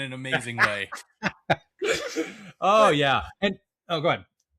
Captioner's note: laugh